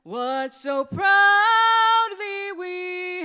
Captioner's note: none